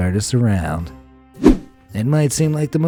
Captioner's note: air whooshing